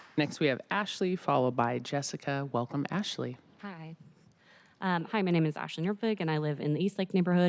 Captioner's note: applause